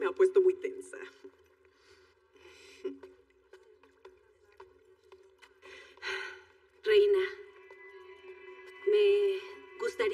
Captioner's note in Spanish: Ríe